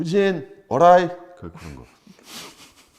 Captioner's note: in Japanese pronunciation